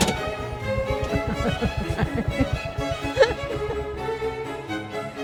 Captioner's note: laughing